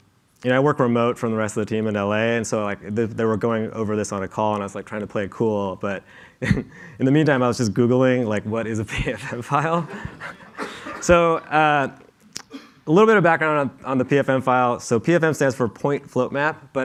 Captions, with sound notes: I work remote from the rest of the team in LA, and so they were going over this on a call, and I was trying to play it cool, but in the meantime I was just Googling what is a PFM file. [LAUGHTER] So a little bit of background on the PFM file, so PFM stands for "point float map,"